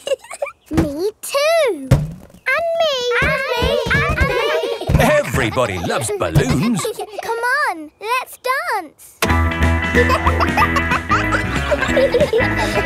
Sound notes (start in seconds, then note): 0.0 chuckles; 9.5 pop music playing; 9.8 kids laughing